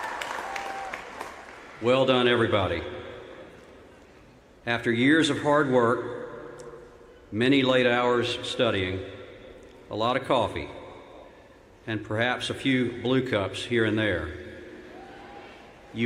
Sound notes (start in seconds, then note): 0.0 cheers and applause